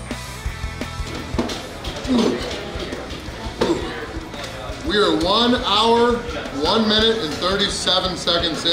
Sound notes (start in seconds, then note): 2.0 groaning